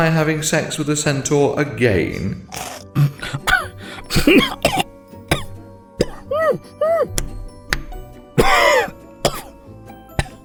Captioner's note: Gareth laughs and chokes on a bite of toast; hoot of alarm, 2 slaps on back, cough / spit